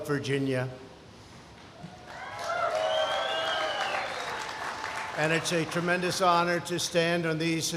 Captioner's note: applause